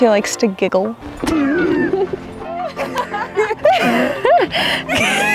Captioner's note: laughing